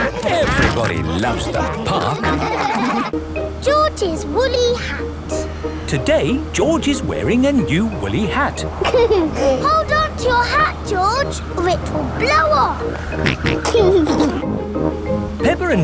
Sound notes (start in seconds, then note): 8.8 giggles; 13.3 snorts and giggles